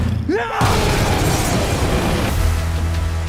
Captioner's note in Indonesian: berteriak